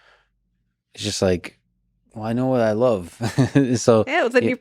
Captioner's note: laughs